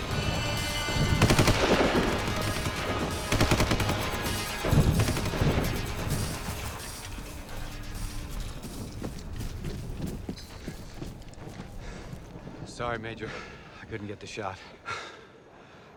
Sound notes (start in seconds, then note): 1.2 gunshot; 8.5 footstep